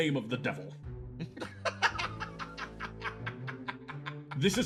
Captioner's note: laugh